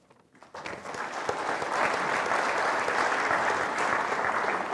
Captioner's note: audience applauding